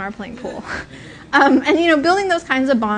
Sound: laughter

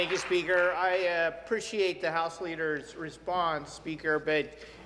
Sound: applause

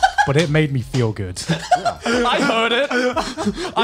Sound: laughs

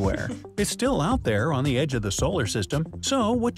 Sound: chuckles; voice-over

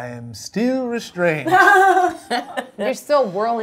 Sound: laugh

